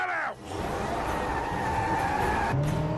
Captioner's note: engines revving